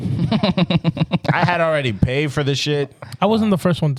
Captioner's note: laughing